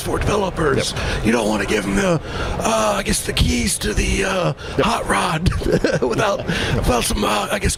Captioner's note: laughter